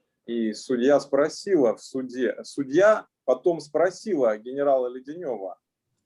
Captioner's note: speaking Russian language